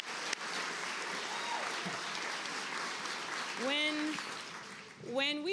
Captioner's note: applause